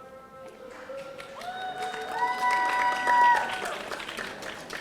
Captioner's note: audience applauding